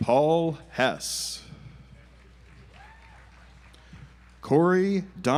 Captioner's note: audience applauds